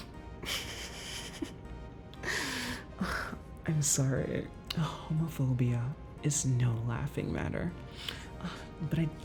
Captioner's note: laughs